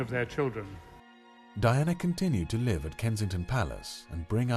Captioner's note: voiceover